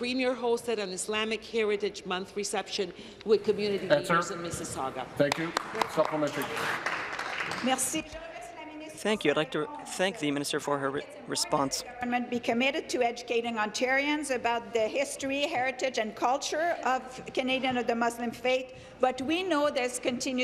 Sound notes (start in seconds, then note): 11.7 speaking in French